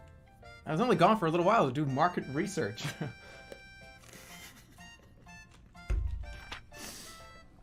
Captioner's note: giggling